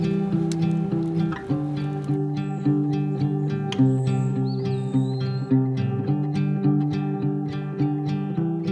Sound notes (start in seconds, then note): 4.5 birds trilling